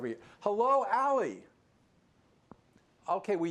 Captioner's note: muted